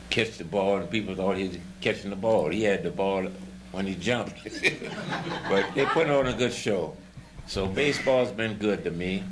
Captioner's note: laughter